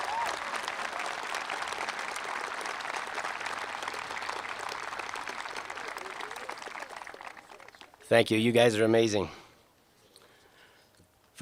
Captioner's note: applause